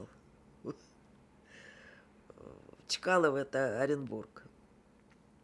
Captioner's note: laughing